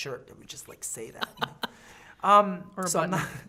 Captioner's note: laughing